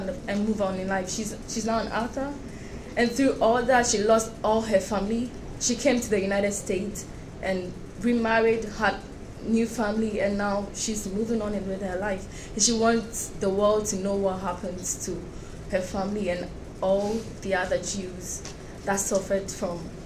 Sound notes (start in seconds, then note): none